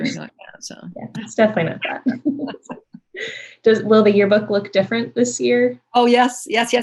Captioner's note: laughter